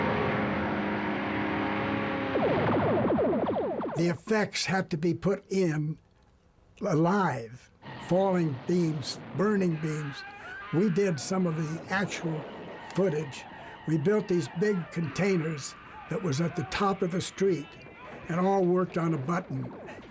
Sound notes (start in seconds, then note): 2.2 lasers zapping